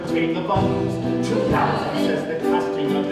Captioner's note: chanting